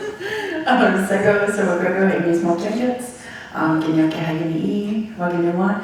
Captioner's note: all laughing; speaking foreign language